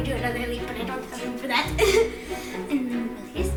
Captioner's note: laughs